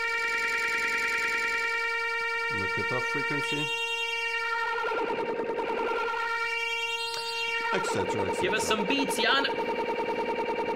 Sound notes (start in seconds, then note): 0.1 computer beeping sounds continue; 4.5 computer beeping sounds become lower in pitch